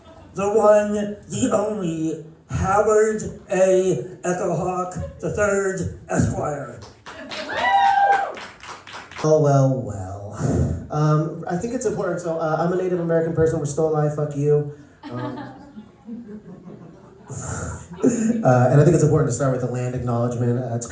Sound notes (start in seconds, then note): 6.8 applause and cheers; 15.0 awkward laughter